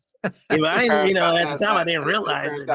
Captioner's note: laughs